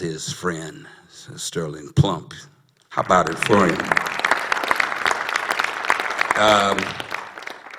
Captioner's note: applause